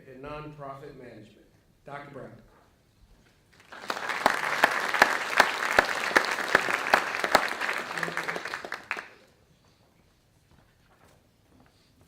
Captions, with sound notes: in Nonprofit Management, Dr. Brown. (audience clapping)